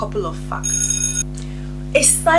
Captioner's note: bell ringing